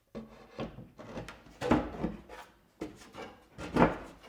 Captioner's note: wood thudding